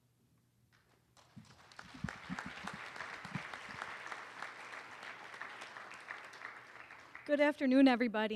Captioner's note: applause